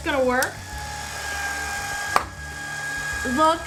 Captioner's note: machine operating